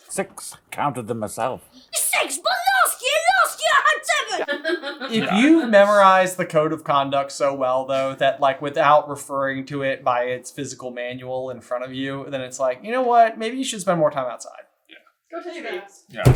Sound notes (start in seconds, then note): 4.2 laughter